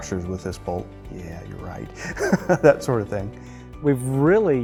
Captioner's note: chuckles